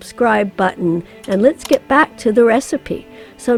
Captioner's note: computer mouse clicks